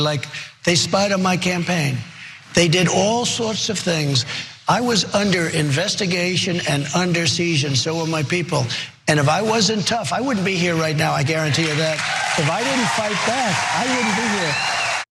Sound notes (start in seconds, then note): 11.4 applause